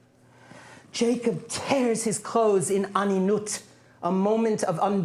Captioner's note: non-english